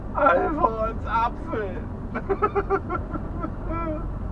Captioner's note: sobs